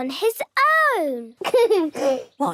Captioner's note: giggles